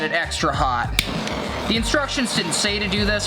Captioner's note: torch blowing